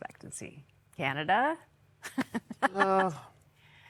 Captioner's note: chuckling